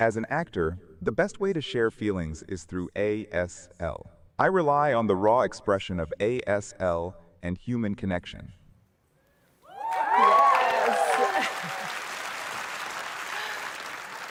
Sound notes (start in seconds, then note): 9.6 cheering; 9.7 applause